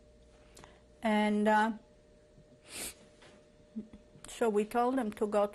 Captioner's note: pauses for 3 seconds